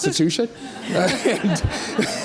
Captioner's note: audience laughs